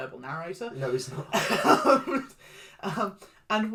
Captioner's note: laughs